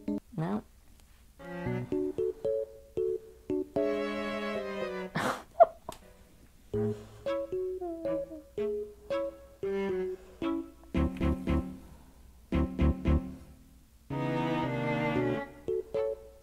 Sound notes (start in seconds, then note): 3.4 music playing; 5.1 laughing